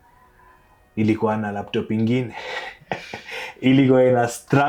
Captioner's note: laughing